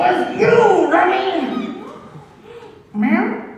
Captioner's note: ORCHESTRA gasps in shock